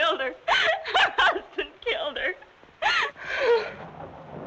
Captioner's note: sobs; thunder rumbling